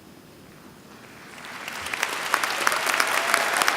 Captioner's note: applause